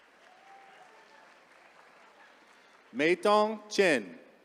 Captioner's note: attendees cheering